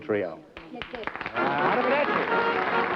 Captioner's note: applause, music playing; speaking italian